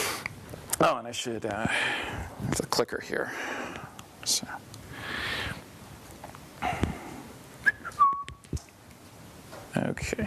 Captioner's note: whistles